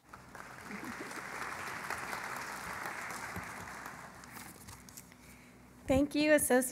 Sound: applause

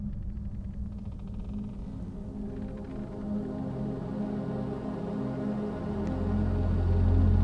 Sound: gentle ominous music; floorboards creaking

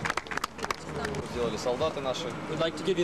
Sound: russian speech

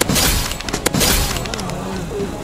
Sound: gunshot firing

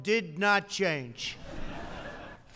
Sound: laughter

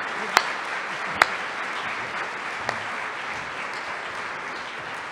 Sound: applause

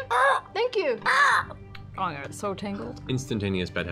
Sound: caws

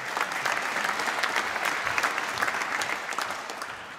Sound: applause

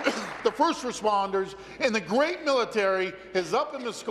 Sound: applause

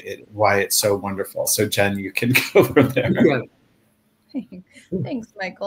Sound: laughs

